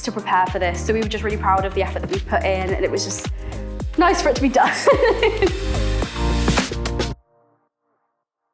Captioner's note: laughs